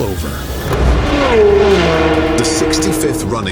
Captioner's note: engines revving